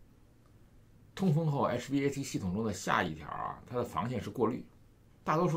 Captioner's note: hvac